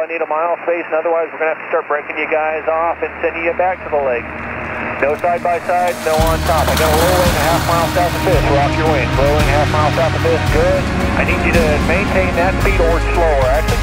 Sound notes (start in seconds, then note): 6.8 motor revving; 8.5 plane engine humming